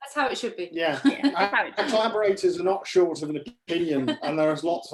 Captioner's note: laughing